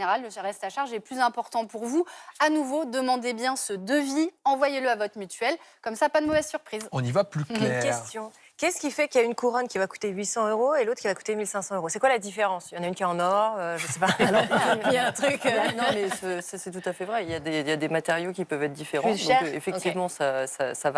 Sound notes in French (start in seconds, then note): 13.8 rires